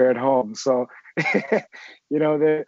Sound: giggles

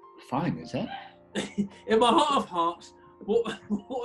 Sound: laughs

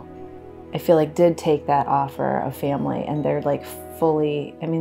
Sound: none

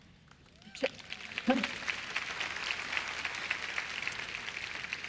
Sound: applause

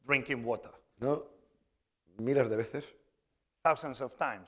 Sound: speaking spanish

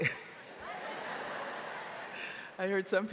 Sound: audience laughing

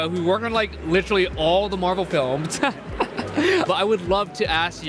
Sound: laughing

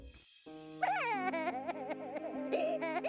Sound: sobbing

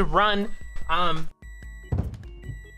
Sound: microwave beeping

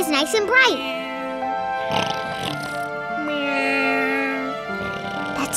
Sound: snoring

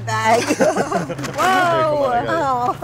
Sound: laughter

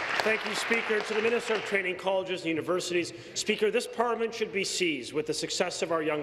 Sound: applause

